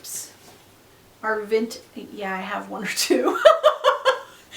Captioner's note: laughs